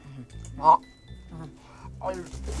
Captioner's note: gobbling